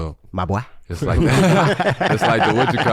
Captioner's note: group laughs